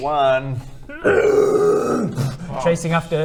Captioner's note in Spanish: hrrgggggggghhhh-booom